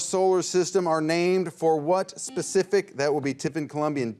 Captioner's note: buzzer rings